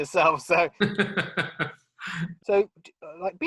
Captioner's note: laughing